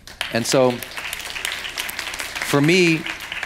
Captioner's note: audience applauding